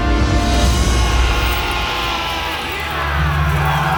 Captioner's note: fighters yell